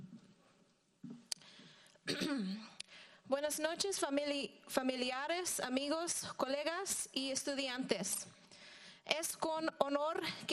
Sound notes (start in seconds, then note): 2.1 clears throat; 3.7 speaking in foreign language